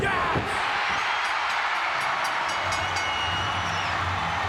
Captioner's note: audience cheering